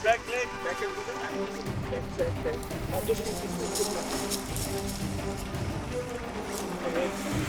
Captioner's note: indistinct conversation; urgent music